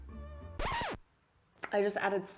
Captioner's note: record skips